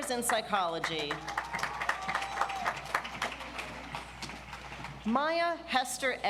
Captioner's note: audience applauds